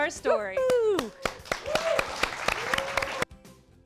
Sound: cheers and applause

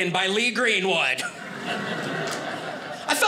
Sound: audience laughing

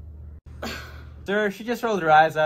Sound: Riley scoffs

